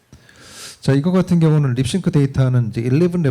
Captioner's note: speaking korean